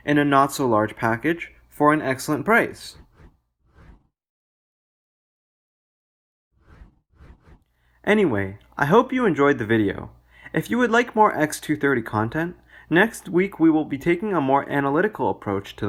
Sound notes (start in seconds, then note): 3.5 transition swooshes